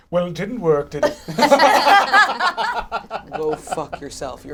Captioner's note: all laugh